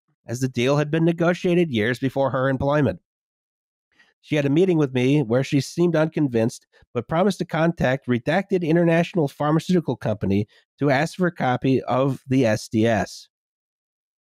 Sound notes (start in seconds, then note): none